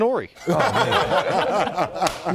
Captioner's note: laughter